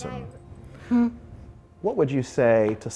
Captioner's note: laughs